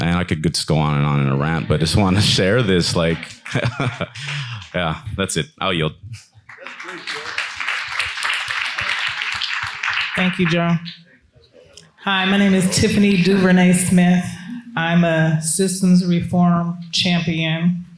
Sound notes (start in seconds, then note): 4.0 laughs; 6.4 attendees clapping; 6.7 attendee faintly speaks